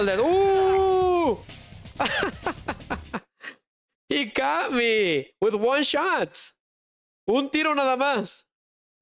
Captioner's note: laughter